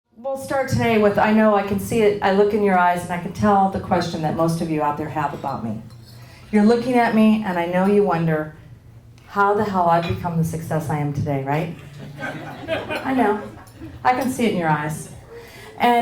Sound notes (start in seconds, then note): 11.9 laughing